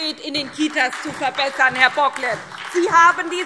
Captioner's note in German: Beifall SPD